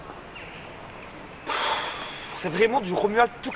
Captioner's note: sigh